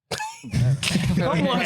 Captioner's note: laughing